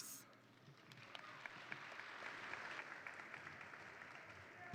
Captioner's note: attendees applaud